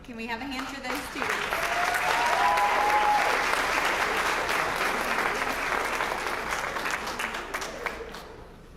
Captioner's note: applause